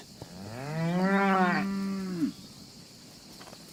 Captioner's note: mooing